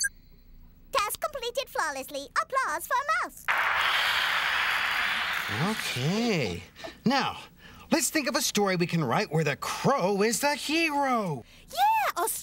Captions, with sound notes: TASK COMPLETED FLAWLESSLY... APPLAUSE FOR MOUSE! ( computer-generated applause ) OKAY, NOW, LET'S THINK OF A STORY WE CAN WRITE WHERE THE CROW IS THE HERO. YEAH! A STORY